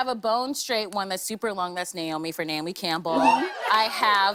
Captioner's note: cheers and applause